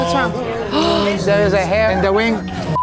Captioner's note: gasps